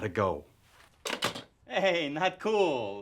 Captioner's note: phone clanks